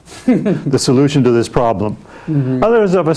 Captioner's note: chuckling